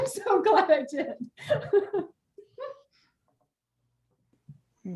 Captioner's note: laughing